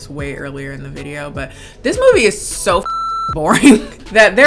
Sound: beep

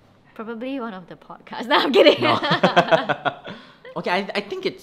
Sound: both laugh

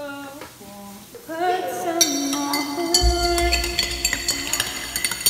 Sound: echoing; loud, echoing sounds of spoon against mug

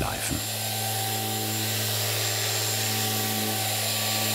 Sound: whirring of the grinding machine

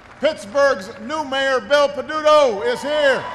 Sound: applause

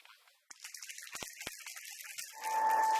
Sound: applause

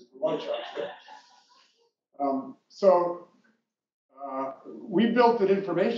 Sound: laugh

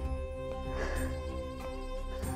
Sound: sighs

